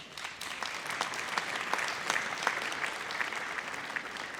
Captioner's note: audience applauds